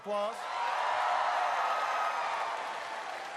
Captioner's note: applause